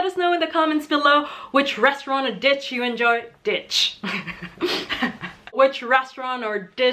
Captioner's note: laughing